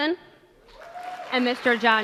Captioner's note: applause